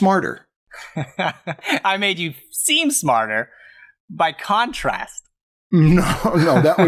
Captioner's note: laughs